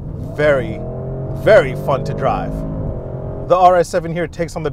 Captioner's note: car engine revving